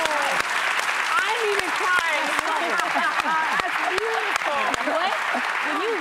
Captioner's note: cheers and applause